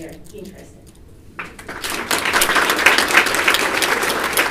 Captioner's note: applause